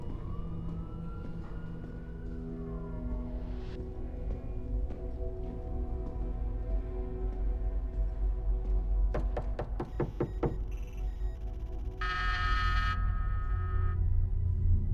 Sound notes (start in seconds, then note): 0.0 siren wails in distance; 9.1 knocking on door; 12.0 doorbell buzzing